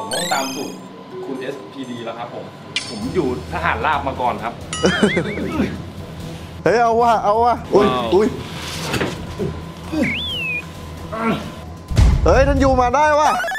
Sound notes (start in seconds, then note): 4.8 chuckles